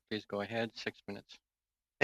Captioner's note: speaking French